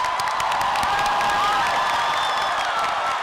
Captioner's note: applause and cheering